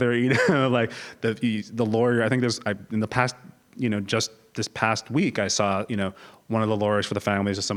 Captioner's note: laugh